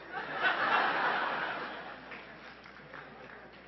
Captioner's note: laughing